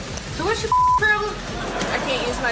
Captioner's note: beep